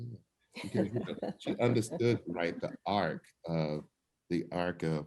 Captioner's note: laughs